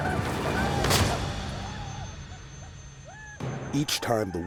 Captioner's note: war cries; gunshot